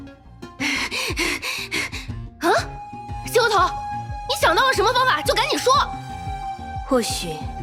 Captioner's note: pants